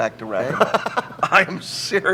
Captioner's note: Tony laughs